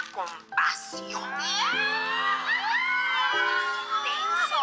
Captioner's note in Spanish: Gritos y exclamaciones